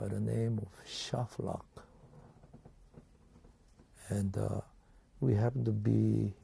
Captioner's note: pauses for 3 seconds